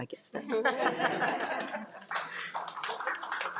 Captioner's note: crowd laughing; crowd applauding